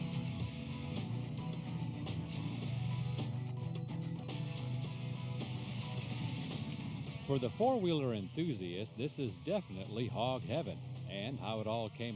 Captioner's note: motorcycles revving